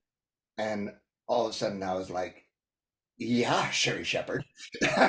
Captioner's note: laughs